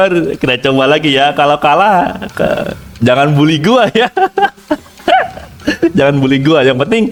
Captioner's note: laugh